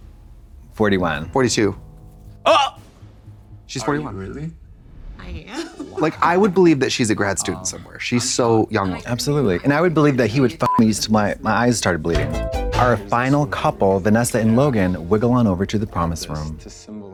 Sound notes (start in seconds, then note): 10.6 beep; 11.5 synth bop